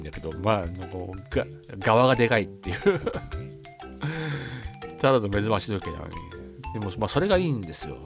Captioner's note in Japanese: 笑い